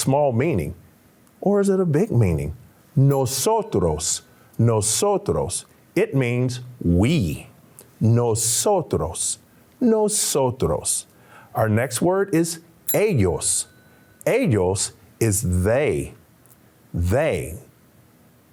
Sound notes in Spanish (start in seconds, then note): 3.1 Señor hablando en un idioma extranjero; 9.2 Señor hablando en lengua extranjera; 14.6 Señor hablando en lengua extranjera